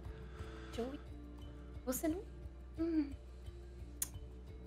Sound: clicks tongue

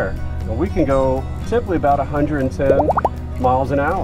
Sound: label plopping

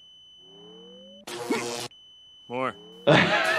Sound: machine ringing; electricity buzzing; grunts; laughs

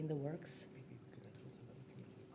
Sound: whispering

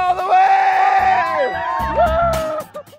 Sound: cheering

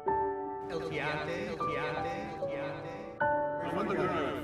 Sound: echoing

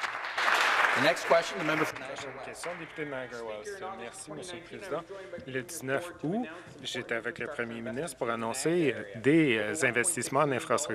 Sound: some Applause

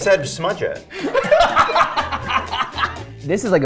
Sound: laugh

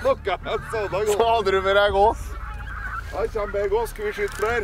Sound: giggles

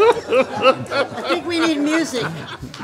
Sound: laughing

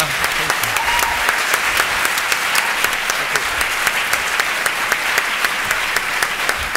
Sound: applause

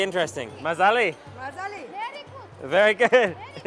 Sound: in foreign language

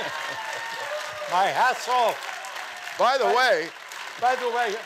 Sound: audience cheering

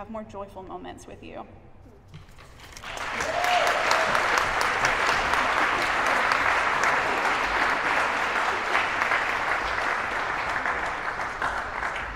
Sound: applause

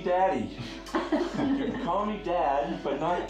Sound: people laughing

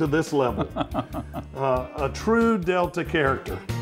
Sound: laughs

